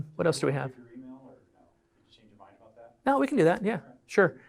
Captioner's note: background chatter